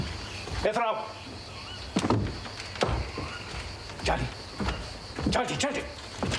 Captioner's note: colonel speaking in a foreign language